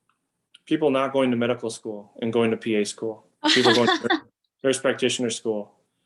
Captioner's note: laugh